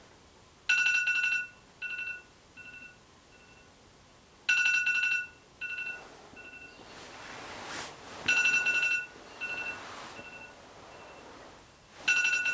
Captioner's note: phone Alarm